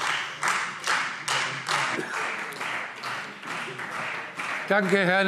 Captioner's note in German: Beifall Freie Demokraten